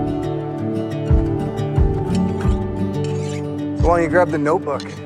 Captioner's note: knife scraping